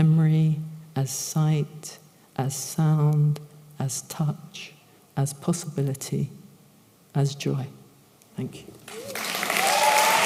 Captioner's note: applause